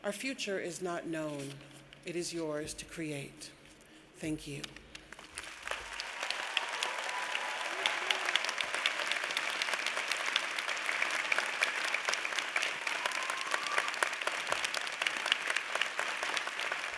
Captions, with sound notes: Our future is not known. It is yours to create. Thank you. (audience claps)